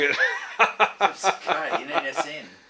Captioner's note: laughs